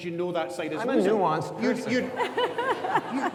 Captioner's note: audience laughs